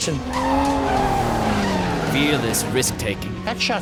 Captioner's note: tires screeching